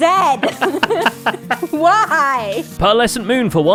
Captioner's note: laughs